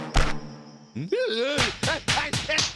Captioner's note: groaning